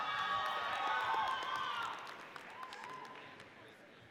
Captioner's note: audience cheers